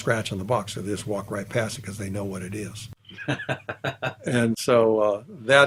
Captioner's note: laughs